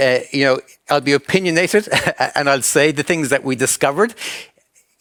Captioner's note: chuckles